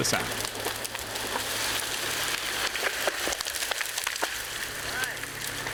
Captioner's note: branches crunching